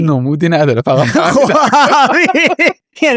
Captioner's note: laughs